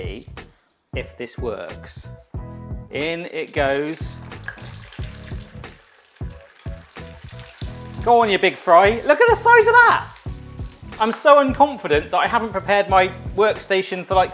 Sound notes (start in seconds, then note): 4.2 oil sizzling